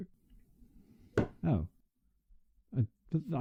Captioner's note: knock